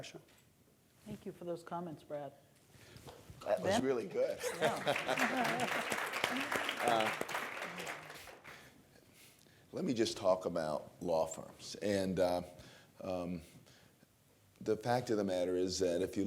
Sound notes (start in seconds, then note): 4.3 laughs; 4.4 applause